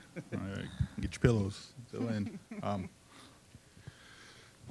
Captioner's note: scattered chuckling